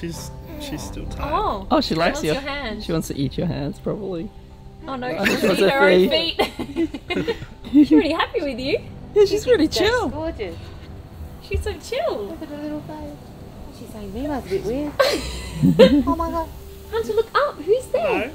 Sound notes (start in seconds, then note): 5.9 laughs